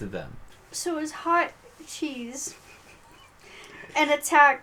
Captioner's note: laughs